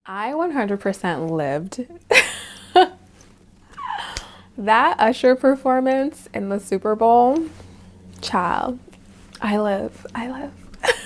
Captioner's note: laughs